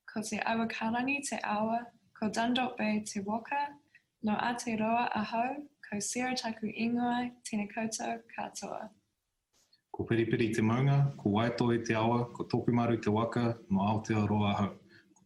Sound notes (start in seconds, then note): 0.5 speaking in Foreign Language